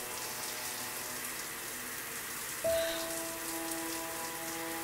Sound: breathes deeply

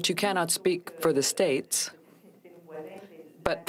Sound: speaking french

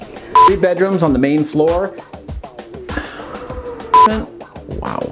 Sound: beeping; laughing; beeping

